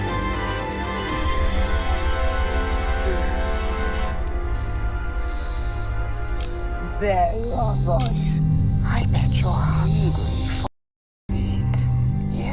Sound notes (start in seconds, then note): 0.1 dramatic music; 4.2 snake hissing